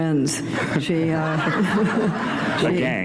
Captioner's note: laughter